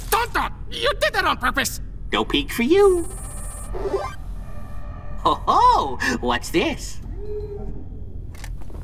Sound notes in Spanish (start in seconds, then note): 3.6 ¡Ruido feliz de escáner!